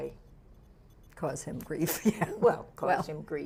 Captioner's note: laughs